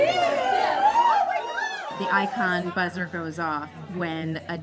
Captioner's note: cheering and buzzer sounds